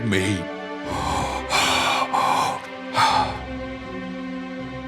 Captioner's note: breathes heavily